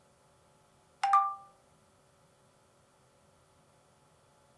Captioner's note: phone chiming